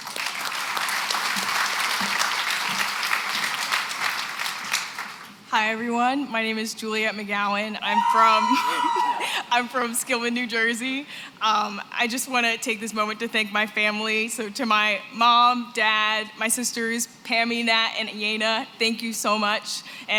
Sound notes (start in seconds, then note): 0.0 applause; 7.9 cheering